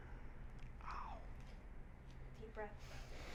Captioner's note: whispers